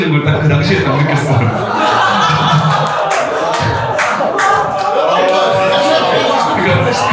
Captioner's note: laugh